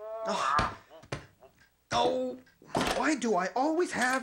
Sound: groans

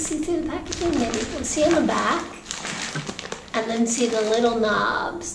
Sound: bag rustling

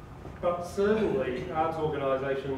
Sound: none

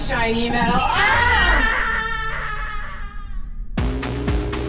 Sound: shouting fades; dramatic upbeat synth music

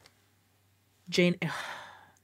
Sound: sighs

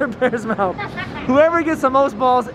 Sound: laughing

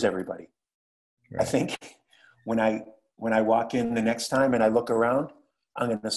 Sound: laugh

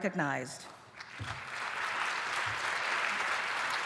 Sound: applause

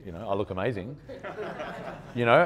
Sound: audience laughing

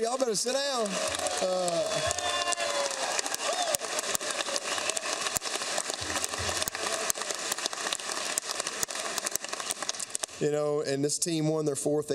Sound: applause

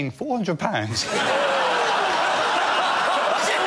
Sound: laughter

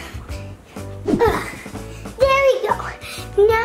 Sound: grunts

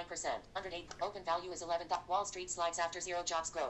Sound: click

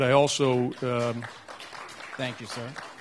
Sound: audience applauding

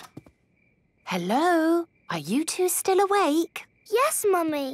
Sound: whisper

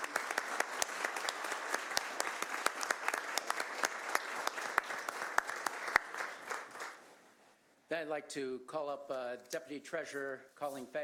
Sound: applause

